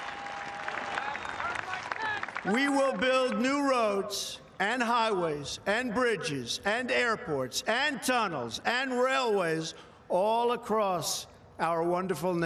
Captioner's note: cheering